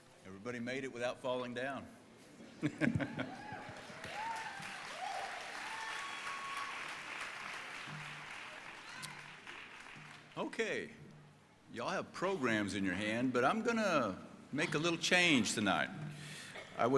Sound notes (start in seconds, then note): 2.6 laughing; 4.5 crowd cheering and applauding